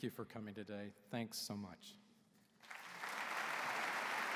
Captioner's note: applause